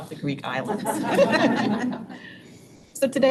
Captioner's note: board laughing